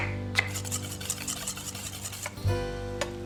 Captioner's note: knife tapping; whisk rattling